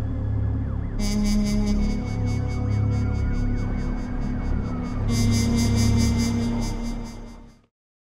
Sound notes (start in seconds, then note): 0.9 sirens wailing